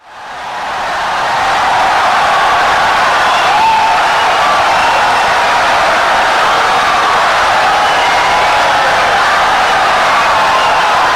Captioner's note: wild applause and cheering for 17 seconds